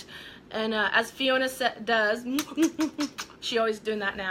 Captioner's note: smooching